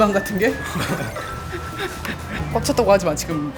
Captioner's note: just laughs